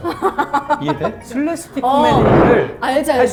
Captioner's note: dragging the chair